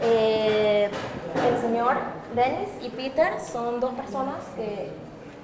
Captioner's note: speaking foreign language